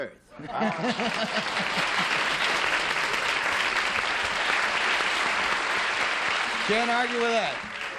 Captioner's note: applause